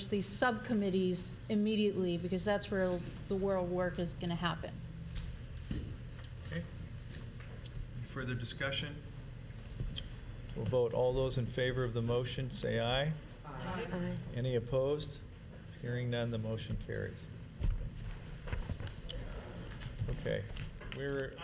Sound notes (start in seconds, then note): 13.4 chorus of ayes